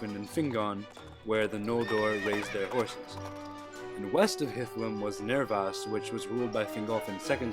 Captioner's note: horse neighs